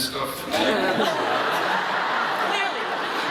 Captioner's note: crowd laughs